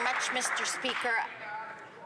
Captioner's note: some Applause